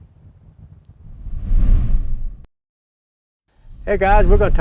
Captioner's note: air whooshing